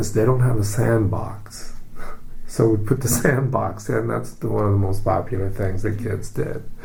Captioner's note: laughing